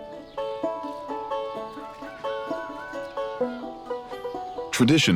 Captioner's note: rooster crowing